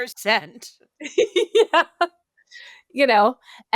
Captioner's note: laughs